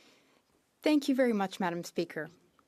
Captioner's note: speaking French